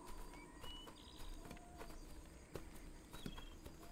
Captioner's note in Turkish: Kuş cıvıltısı sesleri